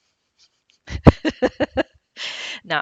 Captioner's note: laughs